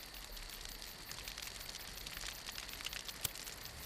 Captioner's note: crackling